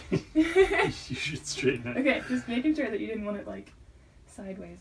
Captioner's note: laughter